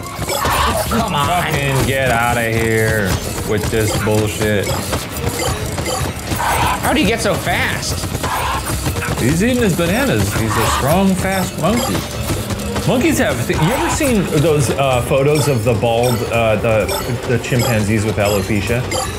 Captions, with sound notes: - Oh, come on. - Fucking get outta here with this bullshit? (feet thumping) (shards bleeping) - How'd he get so fast? - He's eating his bananas. These are strong, fast monkeys. Monkeys, have you ever seen those photos of the bald, the chimpanzees with alopecia?